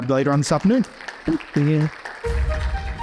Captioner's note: audience applauds